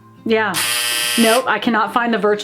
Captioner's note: buzzer blares